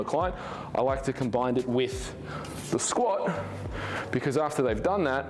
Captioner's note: sighs